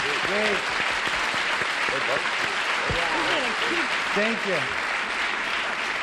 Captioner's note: applause